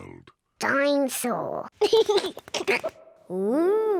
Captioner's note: giggles